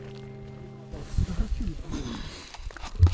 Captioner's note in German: Entfernte Gespräche